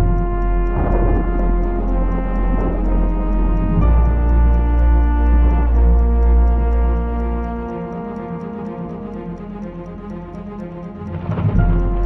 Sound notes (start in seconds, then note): 0.5 thunder